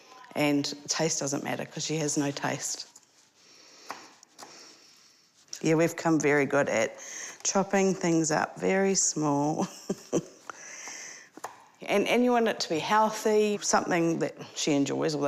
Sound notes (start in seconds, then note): 9.6 chuckles